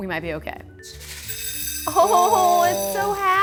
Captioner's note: candy hitting glass